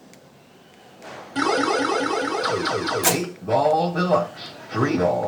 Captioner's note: pinball noises get louder, English announcement